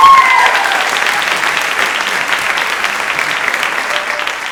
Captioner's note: audience applauds